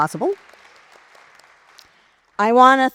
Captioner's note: audience applauds